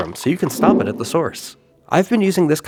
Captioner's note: whoosh!